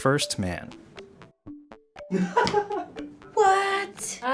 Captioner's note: React laughs